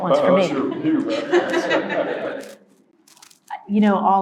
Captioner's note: all laugh